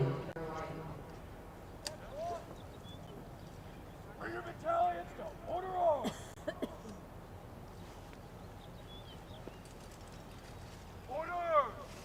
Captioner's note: shouted commands